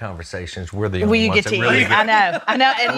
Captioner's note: laughs